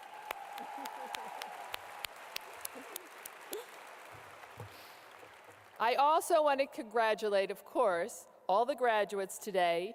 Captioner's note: audience cheers and claps